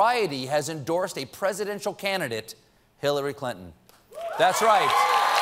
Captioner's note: cheers and applause